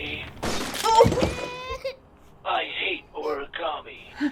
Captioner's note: glass breaking; baby crying